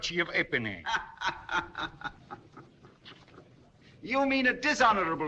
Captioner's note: فرانسوا يضحك